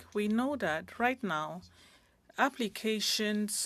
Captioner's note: speaking French